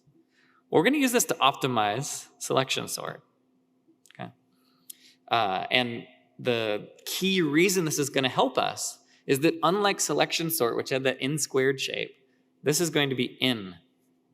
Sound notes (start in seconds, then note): none